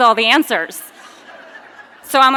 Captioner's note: audience laughing